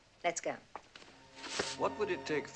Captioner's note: footstep; rustling